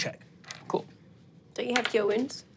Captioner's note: dice rolling